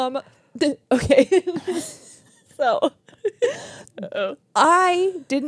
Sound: laugh; laughs

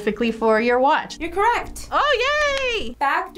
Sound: claps

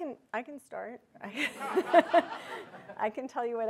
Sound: audience laughing

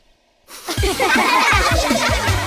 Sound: laughing

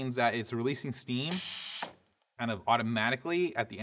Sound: Breville hisses

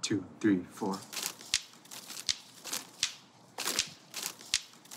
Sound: rhythmic rustling and clacking

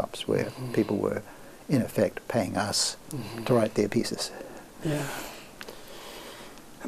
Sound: laughs

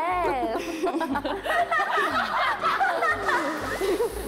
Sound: laughing

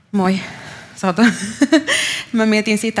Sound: laughs

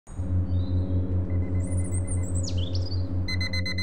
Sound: birds tweet; Wagie's clock alarm rings

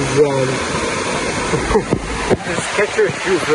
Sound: laughs

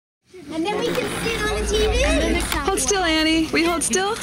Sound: overlapping voices at a party

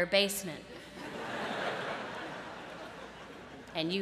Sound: laughter

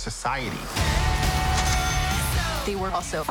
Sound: cash register chimes

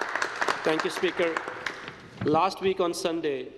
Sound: applause

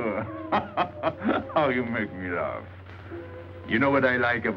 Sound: laughing

